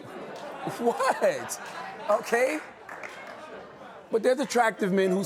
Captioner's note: laughter